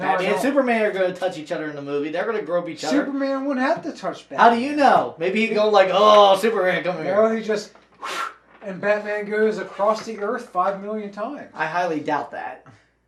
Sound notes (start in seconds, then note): 7.9 blows